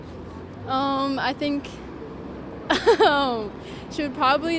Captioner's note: laughing